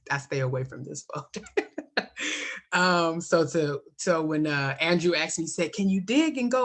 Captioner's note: laughs